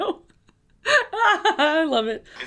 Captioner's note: laughing